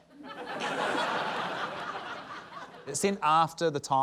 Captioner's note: laughter